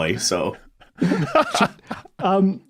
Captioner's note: laughs